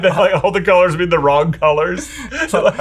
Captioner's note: laughter